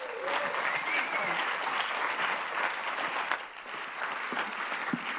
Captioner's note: audience applauds